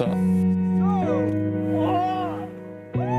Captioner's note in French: il crie